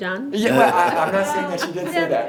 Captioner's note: everyone laughs